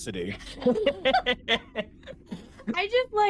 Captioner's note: all laughing